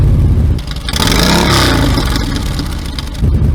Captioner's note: revving engine Monster Ovals mufflers; revving engine stock mufflers; revving engine Monster Ovals mufflers